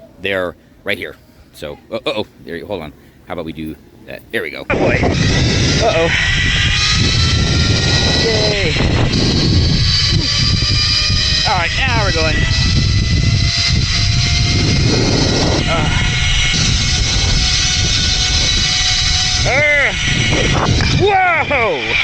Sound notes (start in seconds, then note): 12.8 drone whirring